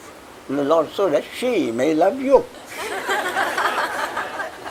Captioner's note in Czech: smích